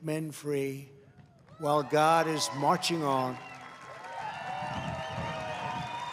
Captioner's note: applause